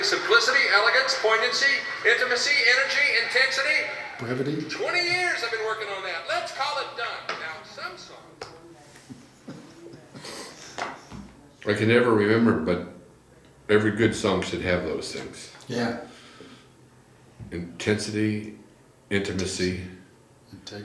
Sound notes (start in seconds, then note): 9.2 chuckles